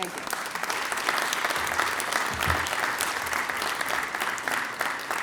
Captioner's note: applause